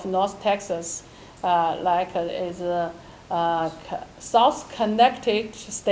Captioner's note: none